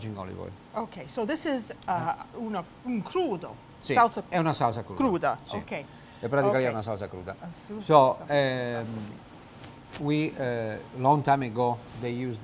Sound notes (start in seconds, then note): 7.5 speaks italian